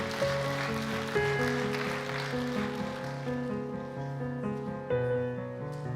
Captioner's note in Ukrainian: оплески